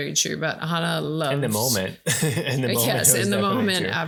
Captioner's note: laughing